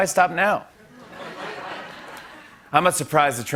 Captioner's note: laughter